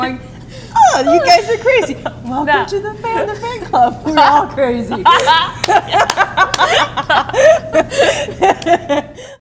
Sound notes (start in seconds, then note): 8.1 laughter